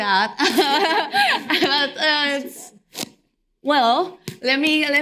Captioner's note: all laughing